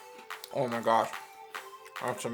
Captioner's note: chewing